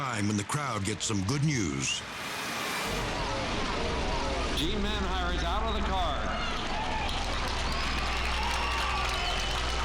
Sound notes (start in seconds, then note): 6.4 crowd cheering